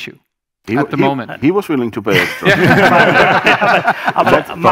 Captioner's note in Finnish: Laughter